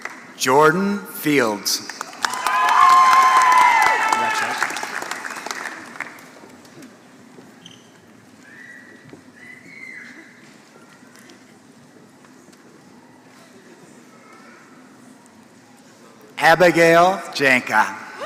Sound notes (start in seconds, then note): 0.0 applause